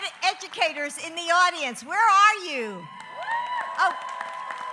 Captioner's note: applause